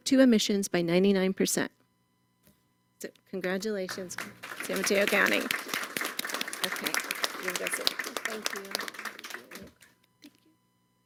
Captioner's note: applause